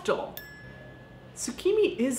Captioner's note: dinging